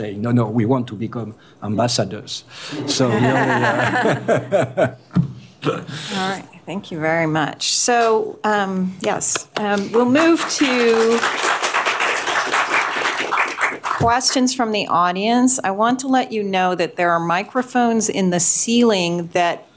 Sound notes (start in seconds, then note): 2.8 laughter; 9.8 applause